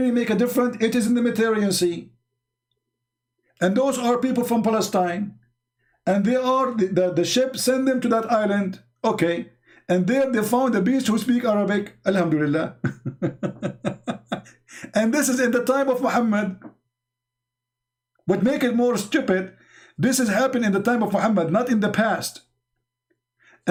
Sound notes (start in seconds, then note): 12.7 Ketawa